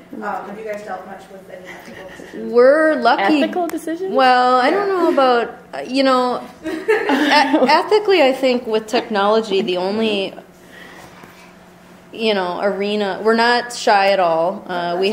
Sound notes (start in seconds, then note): 3.2 voiceover